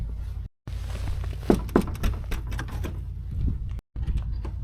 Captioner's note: knock knock knock